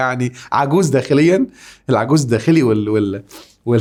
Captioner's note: sarcasm!